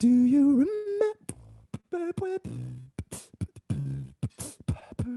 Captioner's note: beatboxing